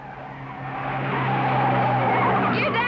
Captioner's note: tires screeching